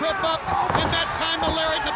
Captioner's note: footsteps plodding; blows thudding; body thudding